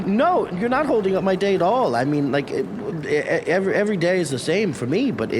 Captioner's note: stammering